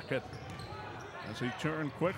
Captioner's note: shoes squeaking; yelling